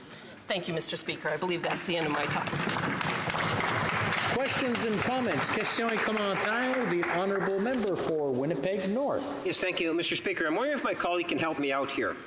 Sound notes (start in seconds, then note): 9.4 some Applause